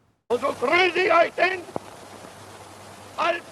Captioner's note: speaking German